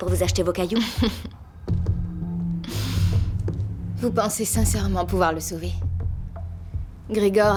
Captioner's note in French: Rires